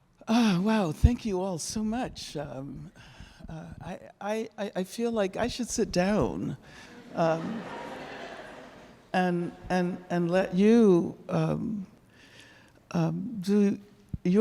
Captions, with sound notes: Oh wow, thank you all so much. I feel like I should sit down, (audience laughing) and let you do your teaching.